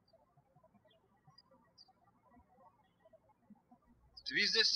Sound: birds chirping

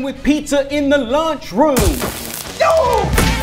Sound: buzzing

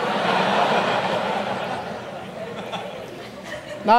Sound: audience laughs

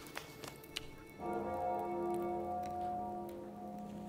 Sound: bells clanging

